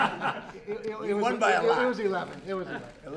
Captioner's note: laughter